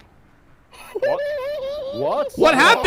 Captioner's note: laughs